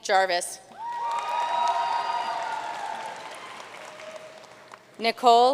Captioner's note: audience cheering and applauding